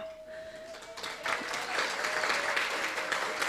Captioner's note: applause